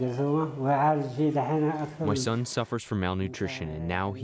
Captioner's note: through translator